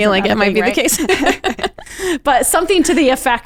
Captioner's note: both laughing